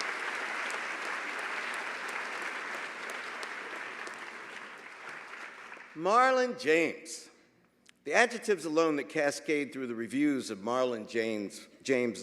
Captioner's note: applause